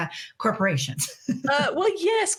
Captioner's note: laughing